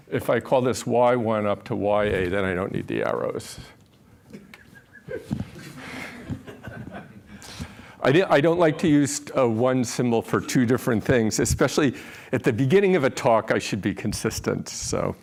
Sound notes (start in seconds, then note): 4.3 laughter